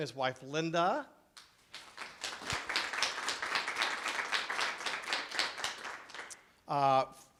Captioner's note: clapping